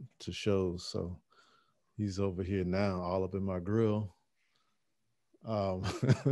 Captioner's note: laughing